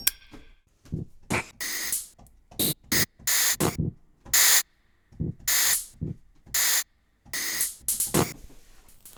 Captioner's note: rhythmic sounds of the gas stove; rhythmic sounds of the lighters